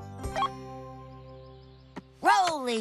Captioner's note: beep